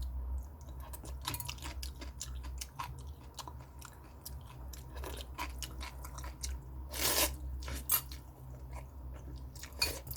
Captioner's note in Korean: 토끼같이 오이를 오물오물 씹는 중, 맛있게도 먹네